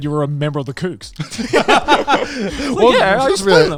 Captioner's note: all laughing